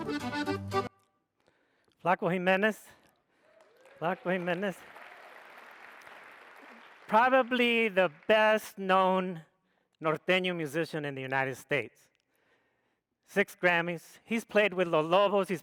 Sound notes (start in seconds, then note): 3.4 audience applauds